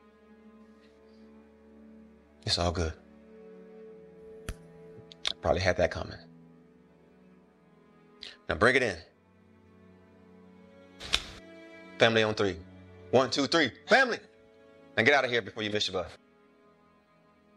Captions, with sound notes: It's all good. Probably had that coming. Now bring it in. [Hands smack] Family on three. One two or three family. Now get out of here before you miss your bus.